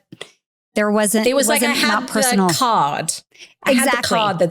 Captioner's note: overlapping chatter